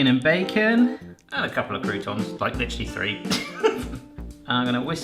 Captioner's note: laughs